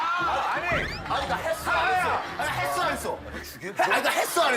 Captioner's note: echoing